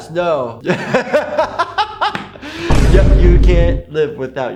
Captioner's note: laughs